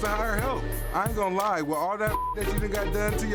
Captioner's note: beep